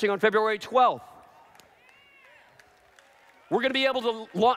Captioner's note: applause